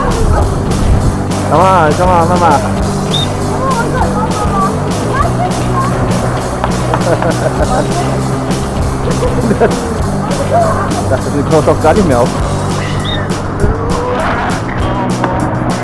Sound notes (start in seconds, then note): 6.8 laugh; 9.5 speaking German